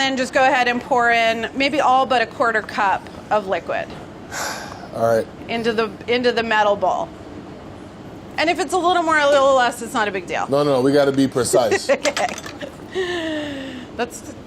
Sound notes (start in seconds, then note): 4.3 sighs; 12.3 laughs